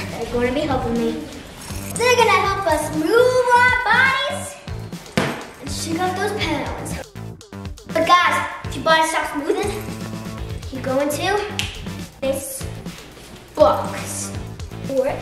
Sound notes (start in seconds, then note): 11.5 snapping fingers